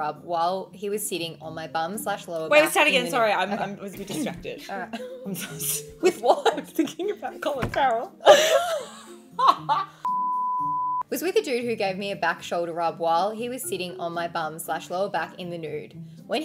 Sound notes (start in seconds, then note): 9.3 women laughing; 10.0 beep